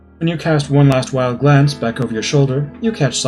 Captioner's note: none